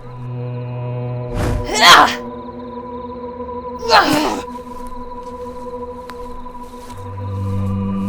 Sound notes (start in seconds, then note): 1.7 Vivian grunts; 3.8 Vivian and Jackson grunt